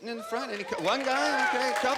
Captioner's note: cheering